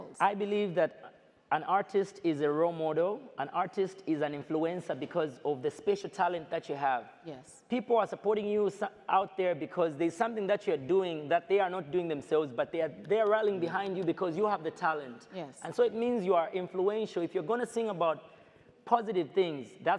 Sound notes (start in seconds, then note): none